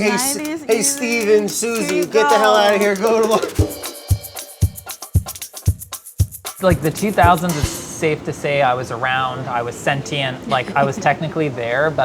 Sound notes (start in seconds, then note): 3.5 laughs; 3.9 upbeat drum music